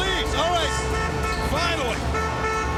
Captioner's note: horn honks